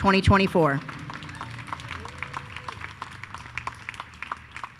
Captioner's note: attendees applauding